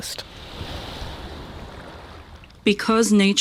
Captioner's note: water lapping